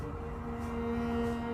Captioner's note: sirens wailing distantly